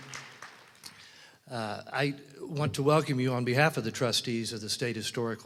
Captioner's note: applause